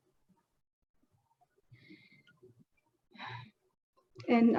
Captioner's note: deep breath and pause